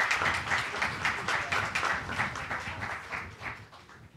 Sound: applause

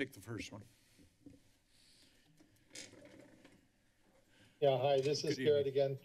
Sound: silence

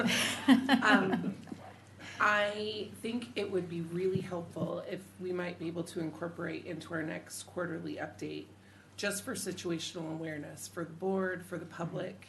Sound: laughing

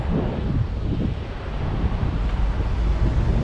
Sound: none

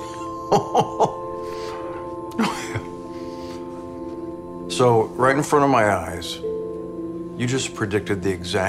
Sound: laughs

